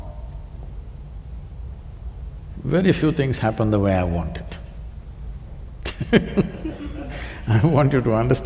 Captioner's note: laughs